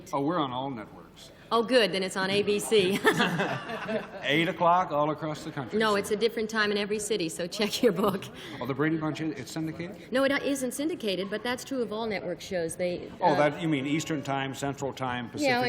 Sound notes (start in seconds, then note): 2.8 laughter